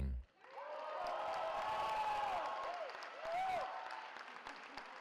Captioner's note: cheering